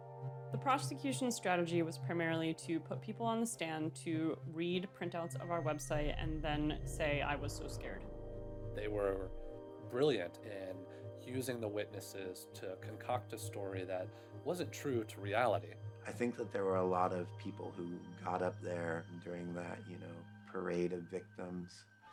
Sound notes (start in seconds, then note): none